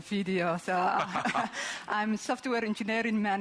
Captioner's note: laughing